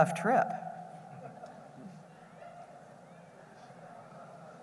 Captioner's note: laughter